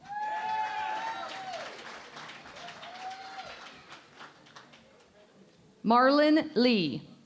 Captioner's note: cheering and Applause